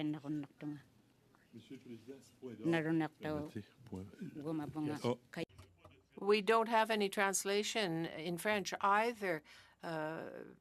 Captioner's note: alternate language spoken